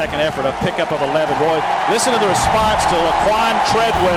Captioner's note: cheering